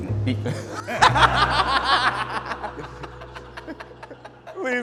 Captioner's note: both laugh